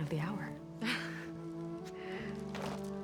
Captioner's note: laugh